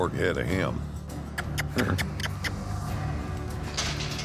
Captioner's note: kissing sound